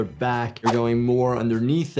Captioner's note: graphics whooshing